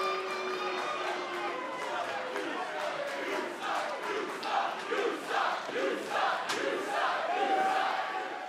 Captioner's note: crowd cheering